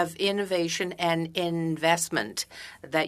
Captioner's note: speaking french